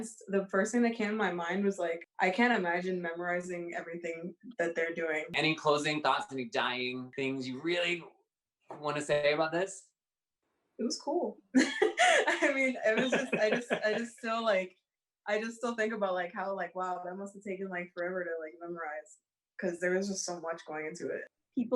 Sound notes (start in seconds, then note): 11.5 laughs